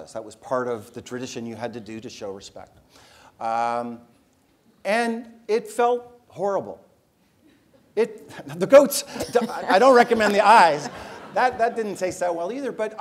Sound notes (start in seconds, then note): 9.2 laugh